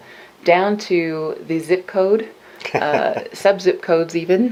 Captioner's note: laughs